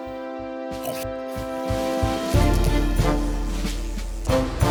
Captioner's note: fly buzzing